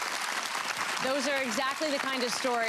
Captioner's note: audience applause